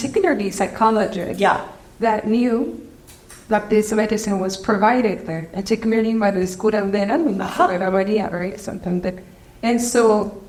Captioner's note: Spanish language